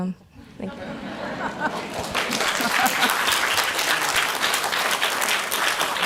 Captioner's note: audience laughs and applauds